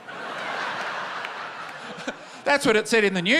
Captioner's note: laughter